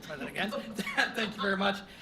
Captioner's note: laughs